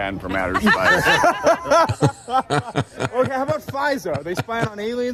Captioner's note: laughing